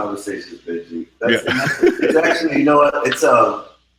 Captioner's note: laughing